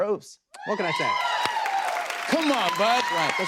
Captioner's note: cheers and applause